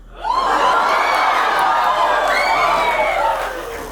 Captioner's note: audience cheers